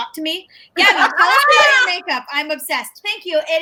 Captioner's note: everyone laughs